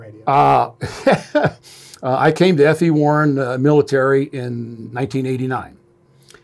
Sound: laughs

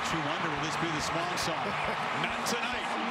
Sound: cheers

